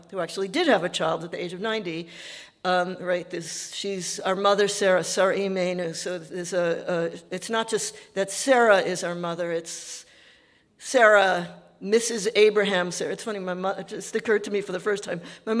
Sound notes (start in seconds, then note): 4.7 speaking Yiddish